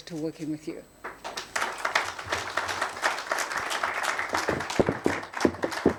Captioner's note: attendees applauding